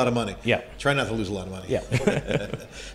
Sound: both laughing

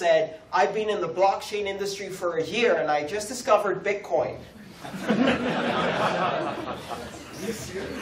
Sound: laughter

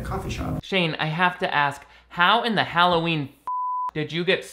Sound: beeps

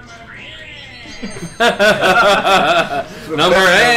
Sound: laugh

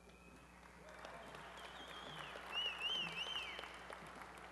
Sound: applause

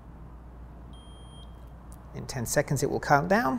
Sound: meter beeps

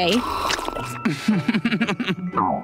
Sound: giggling

